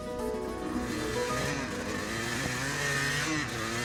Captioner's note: bike whirring